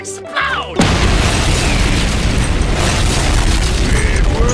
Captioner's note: explosion